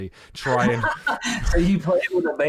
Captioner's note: laughs